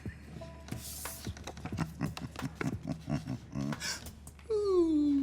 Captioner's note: chuckles